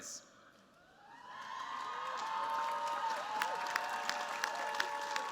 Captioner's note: cheers, applause